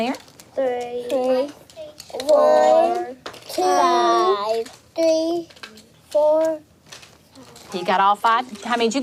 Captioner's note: children counting